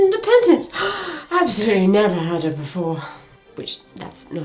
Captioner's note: gasps